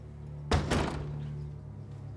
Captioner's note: the door closing sound